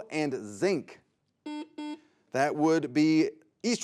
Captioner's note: buzzer buzzes